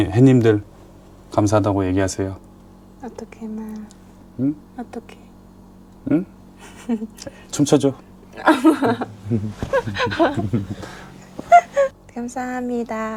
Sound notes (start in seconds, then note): 11.2 laughs